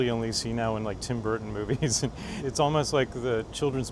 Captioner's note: laughs